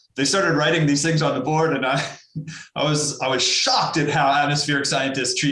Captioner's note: laughs